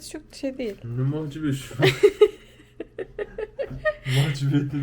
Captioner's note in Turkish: kahkaha